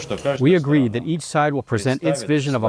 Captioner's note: through translator